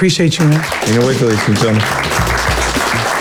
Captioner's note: applause